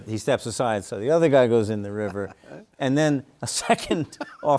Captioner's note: chuckles